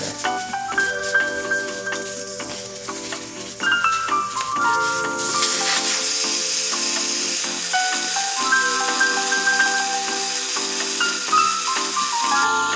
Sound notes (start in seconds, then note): 0.3 easy listening music; 5.0 air hisses